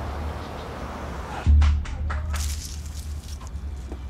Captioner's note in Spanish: Sonido de los carros